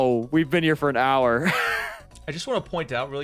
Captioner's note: laughing